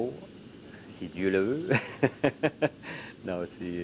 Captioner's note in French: rire